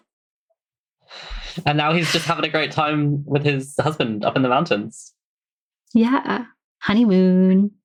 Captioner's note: laughs